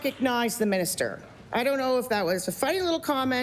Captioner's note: applause